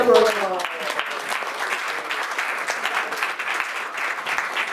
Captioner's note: clapping